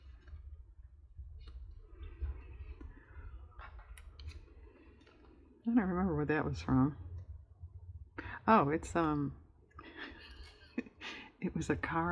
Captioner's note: laughs